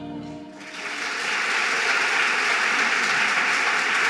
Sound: audience applauding

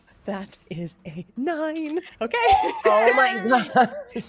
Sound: players cheer

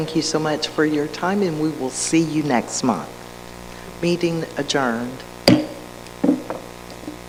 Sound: gavel pounded

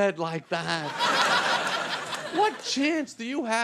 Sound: audience laughing

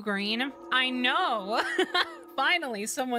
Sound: laugh

